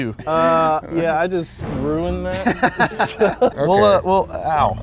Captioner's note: laughing